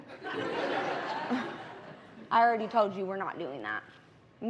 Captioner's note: laughter